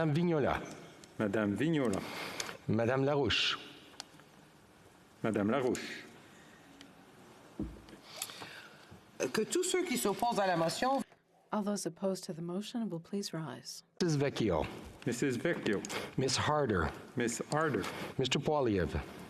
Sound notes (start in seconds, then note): 14.9 speaking French